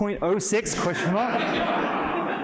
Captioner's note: laughter